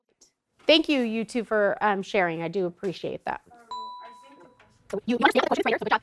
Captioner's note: ding